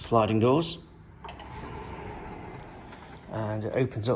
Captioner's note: sliding doors scraping